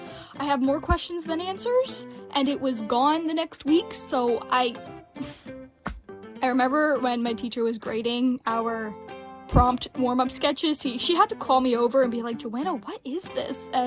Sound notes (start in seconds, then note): 5.2 exhales